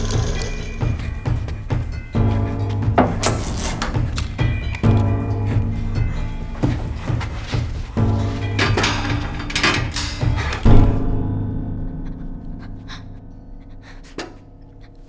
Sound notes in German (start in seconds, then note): 11.8 panting